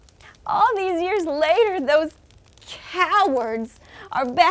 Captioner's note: fire crackles